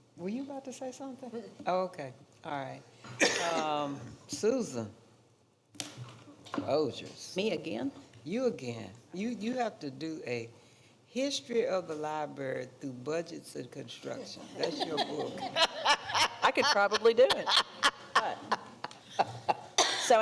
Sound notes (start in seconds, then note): 14.4 laughing; 14.5 others laughing; 17.9 and others laughing